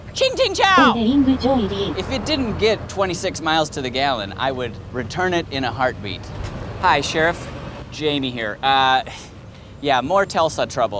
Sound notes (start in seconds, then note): 1.2 car speaking Mandarin